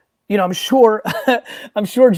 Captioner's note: laughs